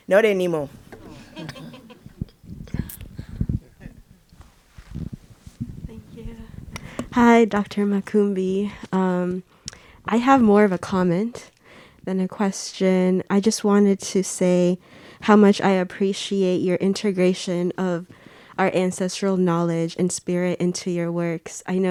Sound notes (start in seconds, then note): 1.0 audience laughing